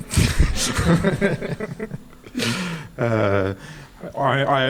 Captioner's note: laughs